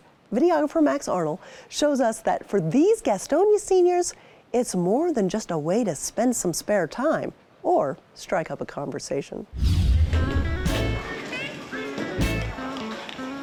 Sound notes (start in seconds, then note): 9.5 air whooshing; 9.7 upbeat music